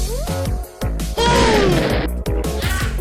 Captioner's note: boom!!; low quality explosion